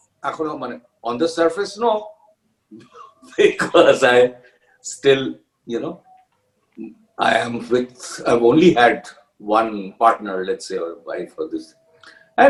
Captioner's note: laughs